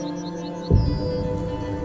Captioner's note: eagle whistles